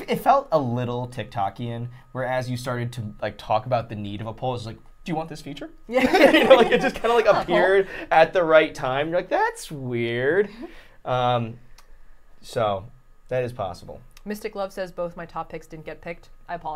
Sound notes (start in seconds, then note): 5.9 all laughing